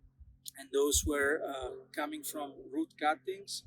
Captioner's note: plane engine roaring